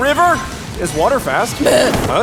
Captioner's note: Tomo croaks